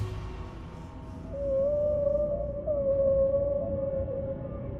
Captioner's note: whales singing